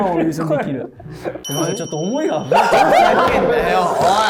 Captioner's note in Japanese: ：笑い